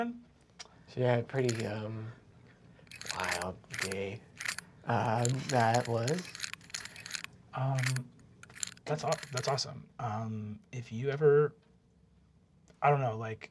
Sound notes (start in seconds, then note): 5.1 combination lock clicking